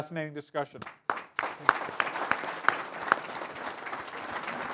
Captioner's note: applause